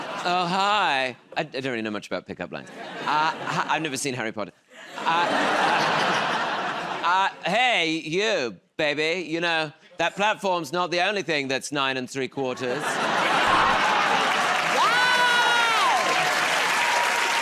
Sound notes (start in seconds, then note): 4.8 laughter; 12.6 laughter; 17.2 cheers and applause